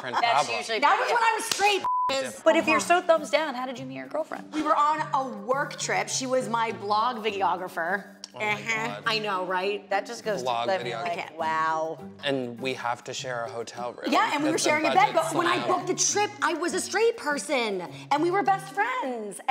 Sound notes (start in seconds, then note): 1.8 beep